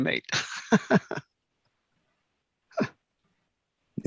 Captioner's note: laughs